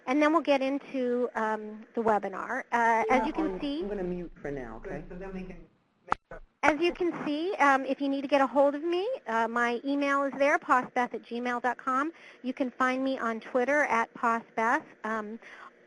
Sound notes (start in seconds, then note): 4.0 voiceover